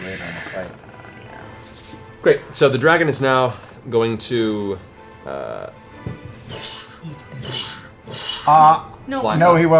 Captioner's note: flapping